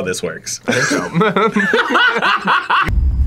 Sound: both laugh

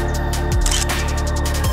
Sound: photo click

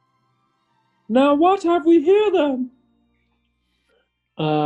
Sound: falsetto

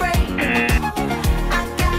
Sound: buzzer rings

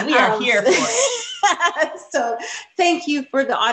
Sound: Nikole laughing

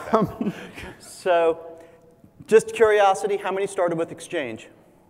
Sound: laugh

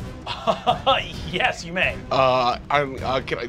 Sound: laughs

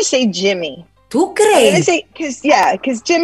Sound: speaking Spanish

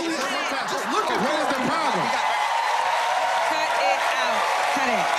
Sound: cheers and applause

